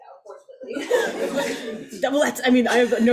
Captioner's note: audience laughs